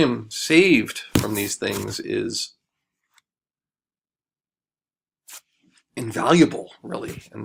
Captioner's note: pause